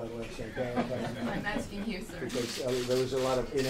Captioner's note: laughter